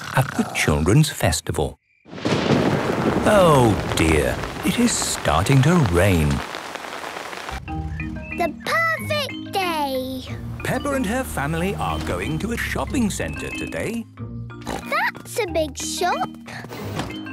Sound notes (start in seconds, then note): 2.1 thunder rumbling; 6.8 downpouring